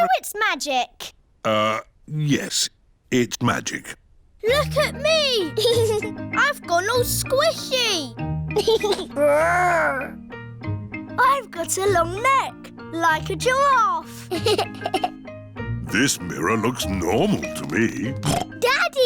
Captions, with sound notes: -So, it's magic? -Uh, yes, it's magic. Look at me! (GIGGLES) I've gone all squishy. (GIGGLES) Grr! I've got a long neck, like a giraffe. (GIGGLES) This mirror looks normal to me. (SNORTS)